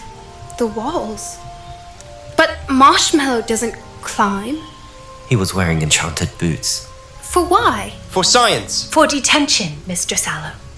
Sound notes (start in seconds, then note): 5.4 mutters